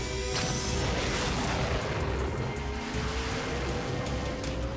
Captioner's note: engine roaring